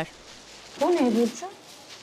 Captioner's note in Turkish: Poşet sesi